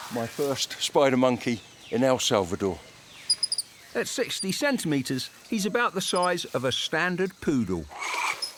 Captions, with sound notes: my first spider monkey in El Salvador. (monkey chitters) At 60 centimeters, he's about the size of a standard poodle.